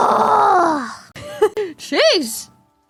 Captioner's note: laughs